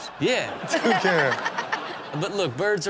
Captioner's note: audience laughs